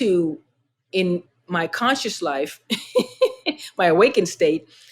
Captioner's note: laughter